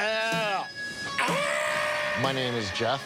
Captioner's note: screams